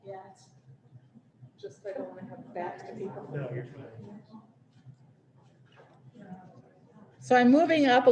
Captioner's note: laughter